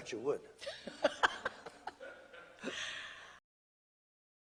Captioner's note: laughter